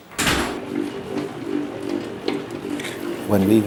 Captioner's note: mixer humming